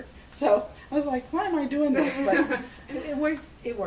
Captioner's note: laughs